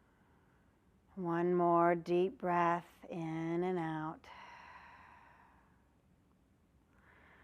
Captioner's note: breath sound